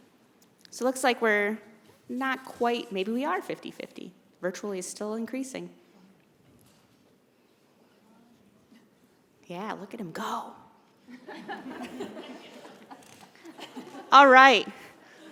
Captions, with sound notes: So, looks like we're, not quite, maybe we are 50/50, virtually is still increasing. Yeah, look at them go! [ Laughing ] All right.